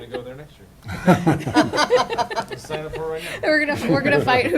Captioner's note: laughter